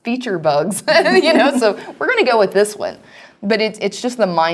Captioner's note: laugh